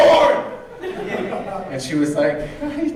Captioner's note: audience laughing